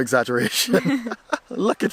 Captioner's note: laughter